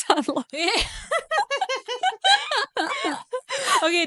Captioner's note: both laughing